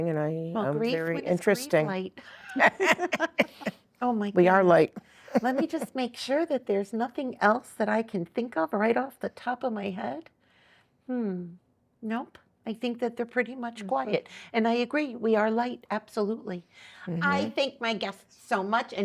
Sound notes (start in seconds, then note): 2.4 laughing